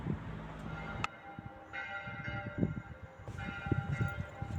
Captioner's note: church bell ringing